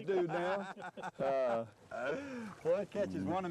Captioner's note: laughter